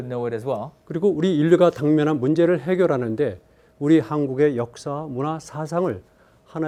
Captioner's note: speaking in Korean